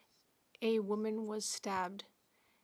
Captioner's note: speaking French